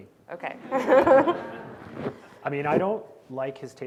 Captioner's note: audience laughing